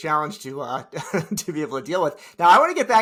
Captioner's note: laughing